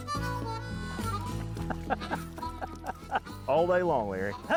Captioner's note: laughs